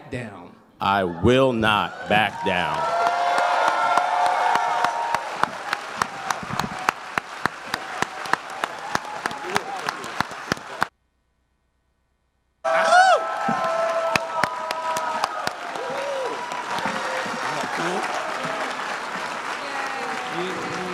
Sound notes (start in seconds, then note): 8.5 applause